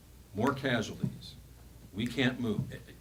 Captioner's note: snaps fingers